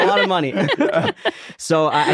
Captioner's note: everyone laughing